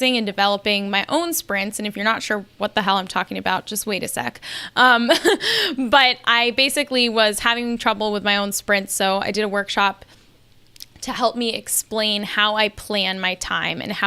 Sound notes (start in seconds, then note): 5.1 laughs